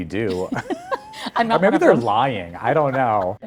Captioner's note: both laughing